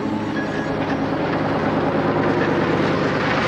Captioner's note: car approaching